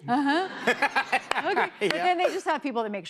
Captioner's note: laughter